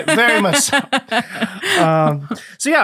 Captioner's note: laughing